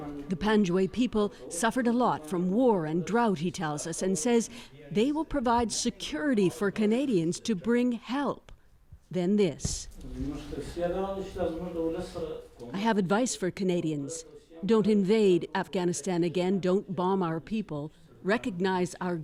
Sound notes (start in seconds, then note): 11.7 speaking Foreign Language